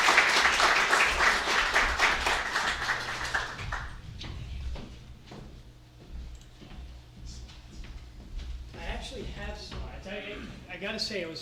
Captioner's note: applause